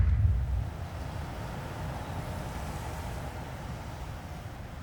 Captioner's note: waves lapping